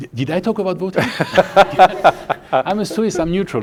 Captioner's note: laughing